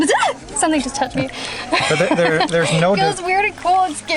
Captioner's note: freaks out